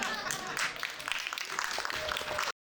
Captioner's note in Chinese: 掌聲